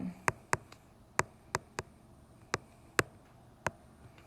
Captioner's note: tapping sound